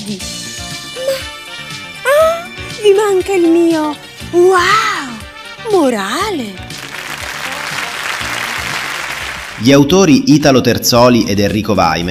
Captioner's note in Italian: applauso